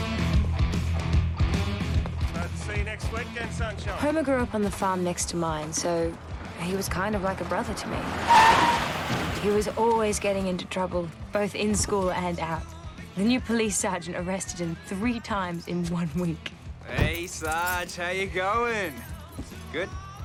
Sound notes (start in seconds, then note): 8.3 tires screech